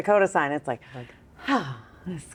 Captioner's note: imitates sighing